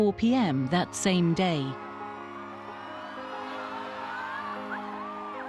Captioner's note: crowd cheering